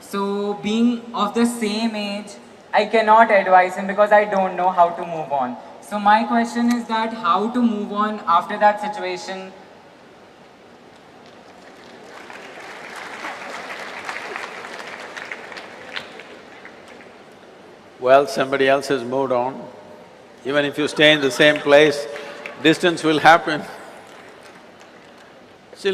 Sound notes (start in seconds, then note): 11.2 applause; 20.7 few laugh; 25.1 laughs